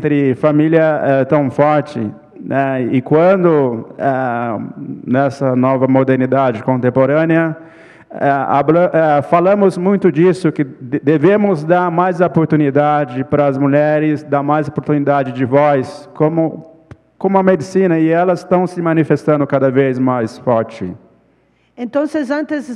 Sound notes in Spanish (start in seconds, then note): 0.1 ponente habla en portugués